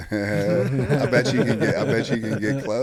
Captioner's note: group chuckles